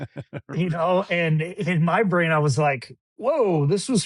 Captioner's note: laughs